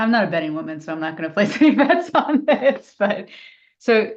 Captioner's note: laughing